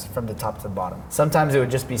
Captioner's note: none